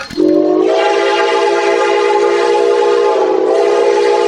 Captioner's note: train whistle